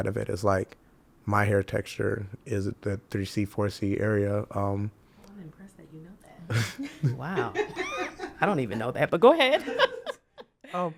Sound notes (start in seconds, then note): 6.5 chuckles; 10.5 laughs